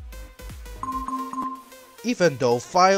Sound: Avast Threat Detection Sound

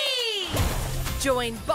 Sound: water splashing

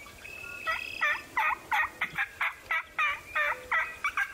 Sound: turkeys gobbling

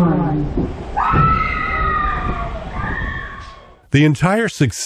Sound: terrified scream!

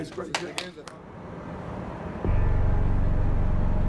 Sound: clapping

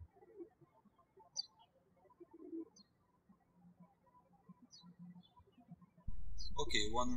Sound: birds chirping

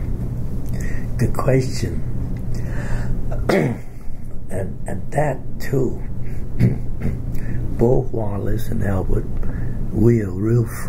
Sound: clears throat

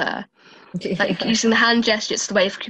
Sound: laughs

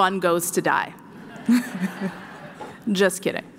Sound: laughter

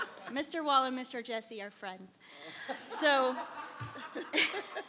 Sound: laughs

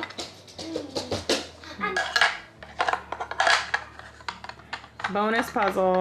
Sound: puzzle piece clanking

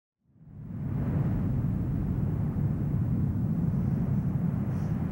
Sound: lava spewing

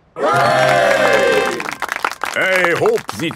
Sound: clapping

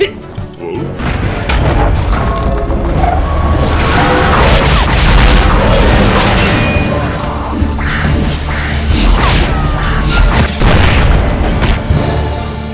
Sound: explosion sounds

